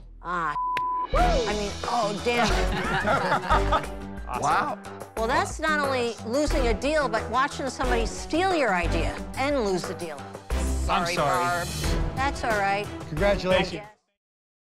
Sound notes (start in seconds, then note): 2.4 laughter